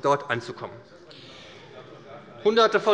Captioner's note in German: Zurufe von der CDU - Gegenrufe von der SPD